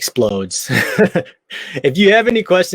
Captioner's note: laughs